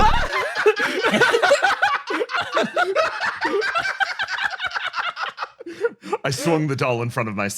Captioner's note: laughs